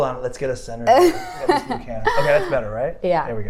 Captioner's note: laughs